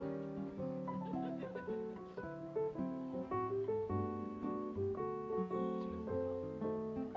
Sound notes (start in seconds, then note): 0.0 light piano music; 0.6 guests murmuring